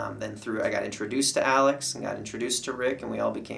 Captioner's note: none